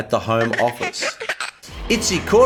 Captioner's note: baby laughing